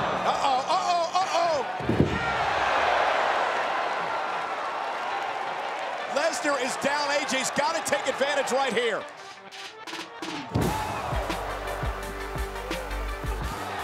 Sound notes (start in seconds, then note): 2.9 applause